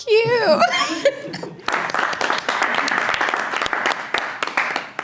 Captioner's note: people clapping